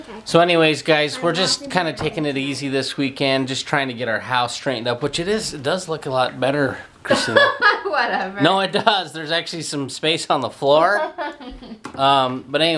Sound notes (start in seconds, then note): 7.1 laughing